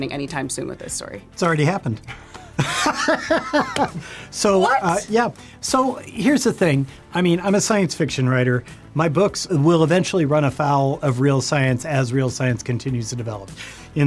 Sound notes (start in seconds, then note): 2.5 laughs